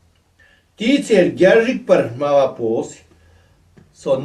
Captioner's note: tibetan